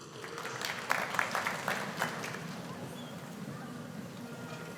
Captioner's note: audience applauding